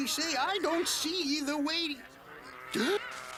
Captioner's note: Gimmick gasps; beeping; gasps